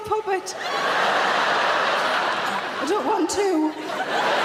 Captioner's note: audience laughing